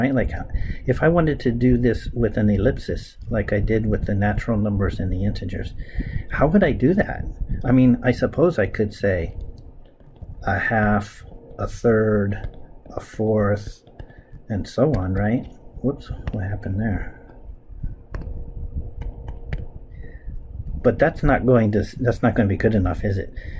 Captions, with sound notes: Like if I wanted to do this with an ellipsis, like I did with the natural numbers and the integers, how would I do that? I mean, I suppose I could say a half, a third, a fourth, and so on, right? Oops, what happened there? [ Writing Sounds ] But that's not going to be good enough, is it?